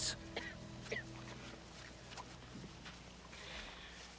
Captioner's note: Mandy coughing